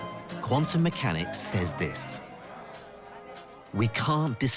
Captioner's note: voiceover